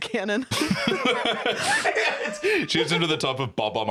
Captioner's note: laughs